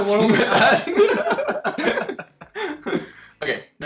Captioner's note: both laughing